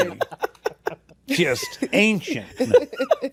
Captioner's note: laughter continues